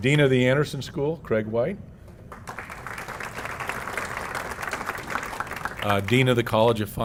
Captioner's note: applause